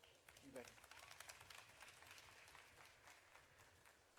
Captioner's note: audience clapping